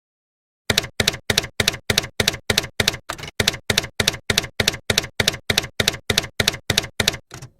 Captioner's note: typewriter keys clacking